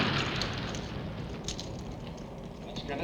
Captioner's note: speaking german